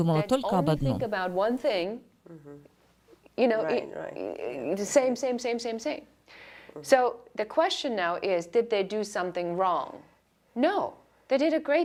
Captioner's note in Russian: Разговаривают на английском